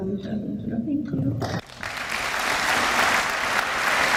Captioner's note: applause